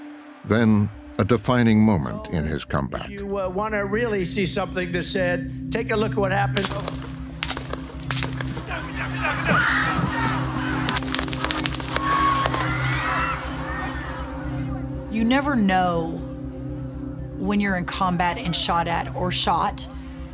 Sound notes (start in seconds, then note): 7.4 gun firing; 10.8 guns firing, people screaming